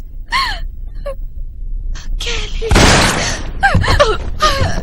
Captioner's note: gunshot